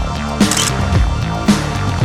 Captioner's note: photo Click